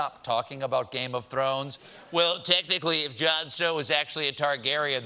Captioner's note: lisping